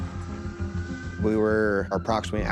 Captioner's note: sirens wailing